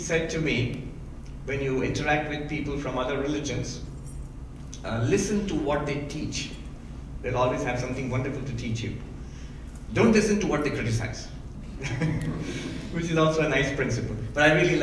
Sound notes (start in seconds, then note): 11.7 laughing